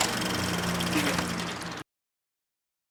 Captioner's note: projector dies